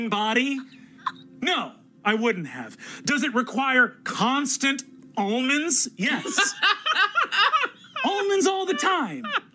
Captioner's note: other two laugh